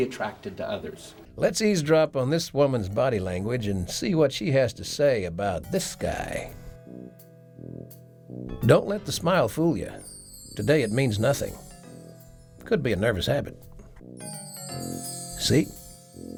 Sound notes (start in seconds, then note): 6.9 playful music; 8.6 bells chiming